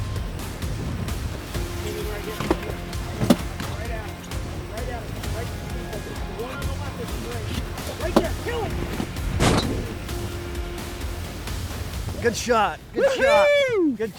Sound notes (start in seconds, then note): 1.5 chatter; 9.4 gun shot; 12.2 yelling